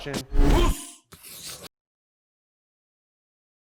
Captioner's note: writing on chalkboard